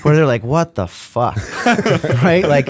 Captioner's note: laughter